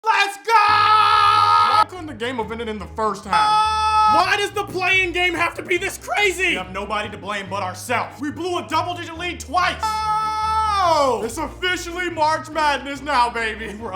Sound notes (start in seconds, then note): 3.6 yelling; 9.9 yelling